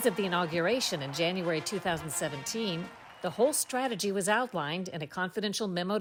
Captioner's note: applause